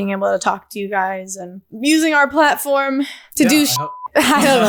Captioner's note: beep